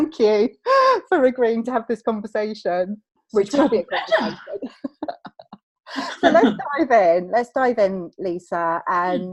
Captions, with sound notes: So thank you for agreeing to have this conversation, which will be a conversation (laughs). So let's dive in, let's dive in, Lisa,